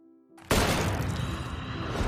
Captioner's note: gunshot